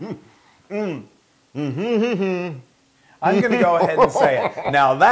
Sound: laugh

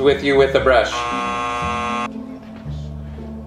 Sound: buzzer buzzing

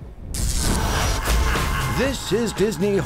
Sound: electricity crackles

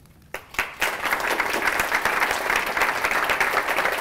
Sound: applause

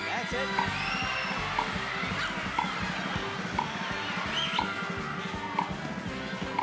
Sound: audience cheers; upbeat game show music

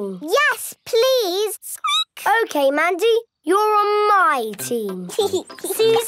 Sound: squeaking; giggling; laughing

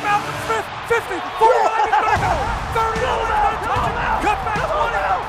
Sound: crowd cheering

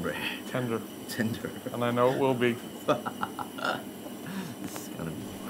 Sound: laughs

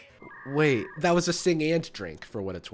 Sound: modem crackling

